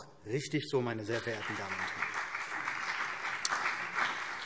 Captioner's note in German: Beifall